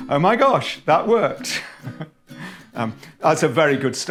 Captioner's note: laughing